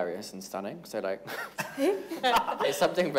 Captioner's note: everyone laughs